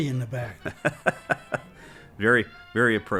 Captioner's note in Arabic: يضحك